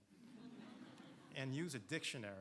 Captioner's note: audience laughing